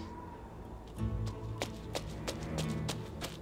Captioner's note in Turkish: Ayak sesi